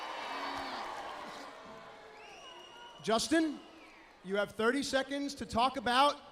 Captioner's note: crowd cheering